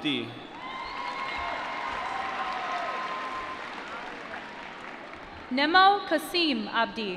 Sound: cheering

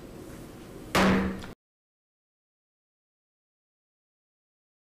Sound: gavel bangs

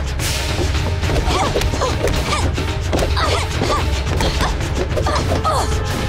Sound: grunting

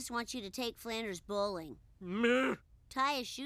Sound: angry groan

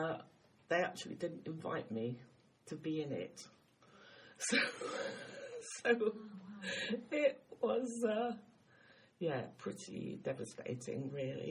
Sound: laughs

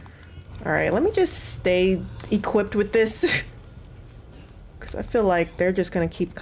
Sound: laugh

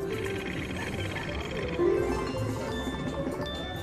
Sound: wheel spins

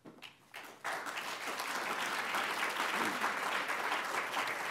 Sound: applause

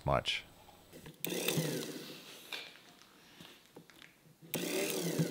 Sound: engine whirring

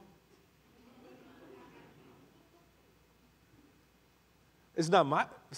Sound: congregation laughing

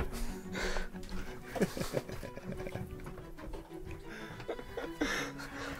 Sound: laughing

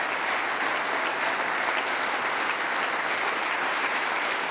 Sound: applause

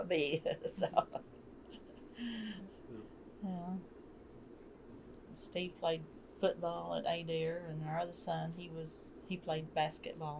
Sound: laughs

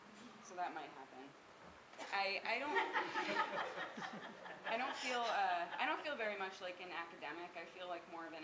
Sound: laughing

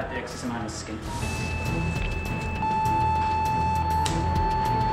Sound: monitor beeping

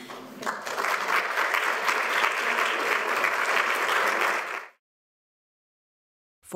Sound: applause

